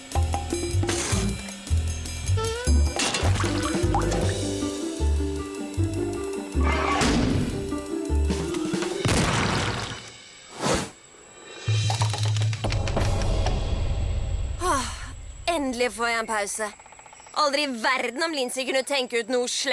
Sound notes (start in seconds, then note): 14.6 sighs